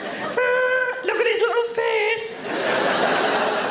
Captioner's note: audience laughing